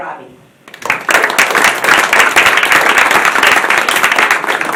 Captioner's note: applause